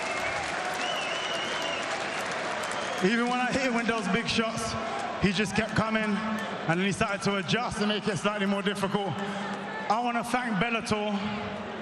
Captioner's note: cheers and applause